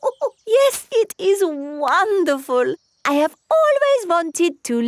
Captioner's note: laughs